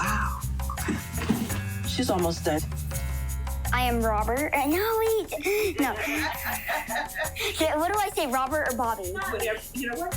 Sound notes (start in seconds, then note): 5.3 laughing